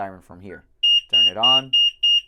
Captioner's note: beeps